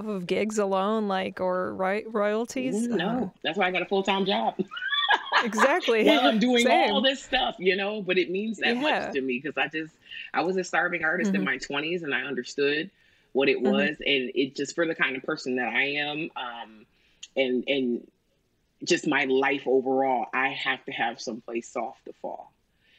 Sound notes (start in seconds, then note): 4.6 laughs